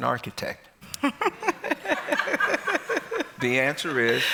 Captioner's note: laughter